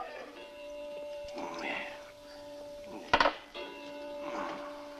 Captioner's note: clock chiming